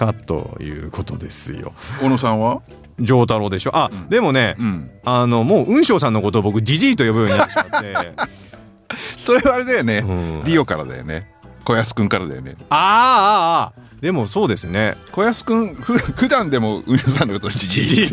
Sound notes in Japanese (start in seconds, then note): 7.2 笑い